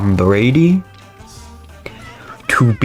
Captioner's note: inhales Oxygen